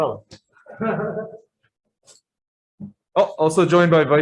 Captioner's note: laughter